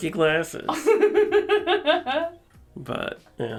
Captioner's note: laughs